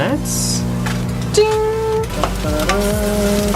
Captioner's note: mimics ding